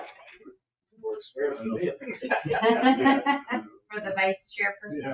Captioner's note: group laughs